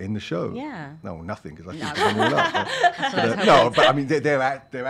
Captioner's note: laughs